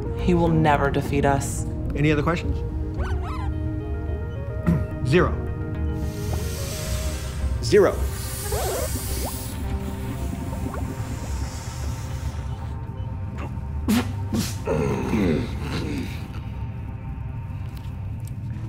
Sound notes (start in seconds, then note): 3.2 robot squeals; 5.9 Zero inhales loudly; 8.7 Zero inhales loudly; 8.7 robot squeals; 14.4 Zero grunts